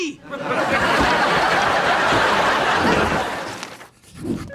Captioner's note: audience laughing